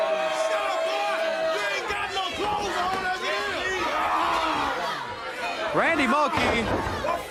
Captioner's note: crowd chatter